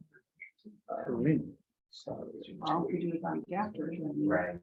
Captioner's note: members chattering